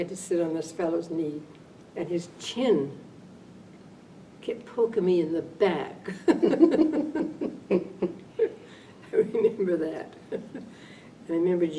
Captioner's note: laughter